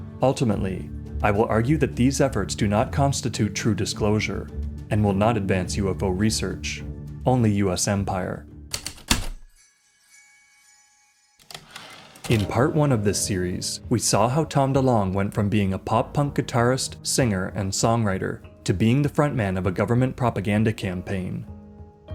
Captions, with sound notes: Ultimately, I will argue that these efforts do not constitute true disclosure, and will not advance UFO research - only US empire. [Heavy typewriter keystrokes, light chimes, typewriter return slide] In part I of this series, we saw how Tom DeLonge went from being a pop-punk guitarist, singer, and songwriter, to being the frontman of a government propaganda campaign.